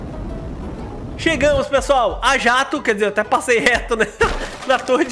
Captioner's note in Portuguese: risos